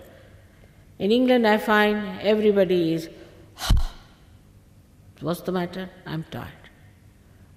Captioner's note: shri mataji exhales - ha